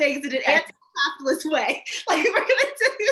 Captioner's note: laughing